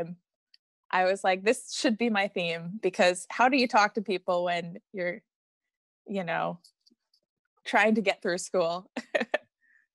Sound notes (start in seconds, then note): 8.6 laughs